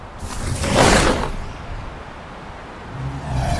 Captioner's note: air whooshes